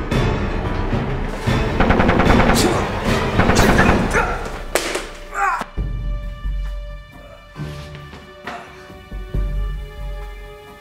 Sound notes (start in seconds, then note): 1.7 gun fires; 5.3 Jared groans